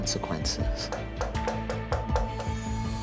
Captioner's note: knock on door